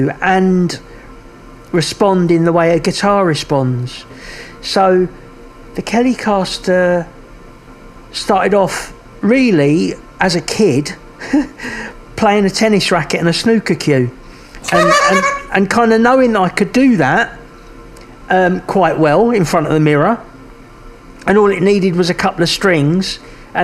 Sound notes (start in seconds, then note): 14.6 laughing